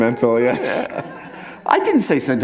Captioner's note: chuckle